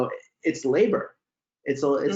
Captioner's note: laughs